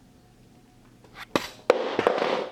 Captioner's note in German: herunterfallendesTelefon